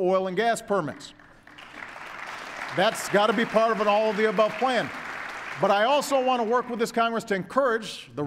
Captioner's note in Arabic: تصفيق